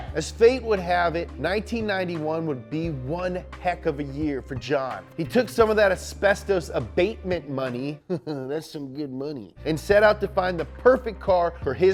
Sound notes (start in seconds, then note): 8.0 chuckles